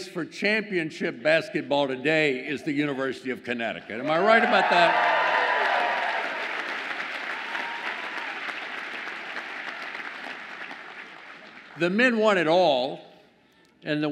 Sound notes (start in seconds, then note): 4.1 audience applauds and cheers